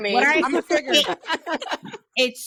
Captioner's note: laughing